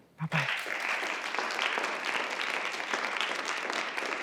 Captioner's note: applause